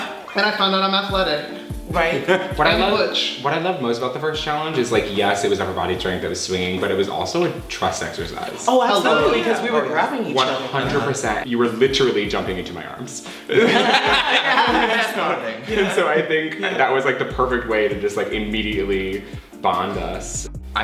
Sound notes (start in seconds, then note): 13.3 laughing